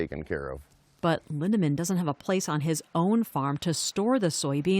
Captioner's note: voice-over